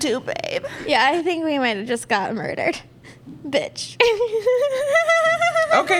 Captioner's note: weak giggle